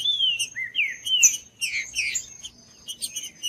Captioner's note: trinca ferro cantando